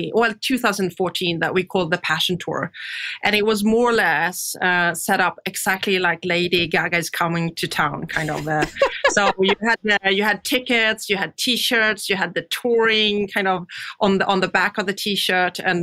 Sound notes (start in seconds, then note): 8.1 laughs